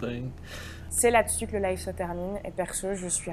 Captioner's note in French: en voix-off